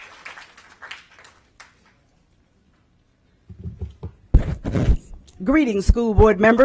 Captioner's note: applause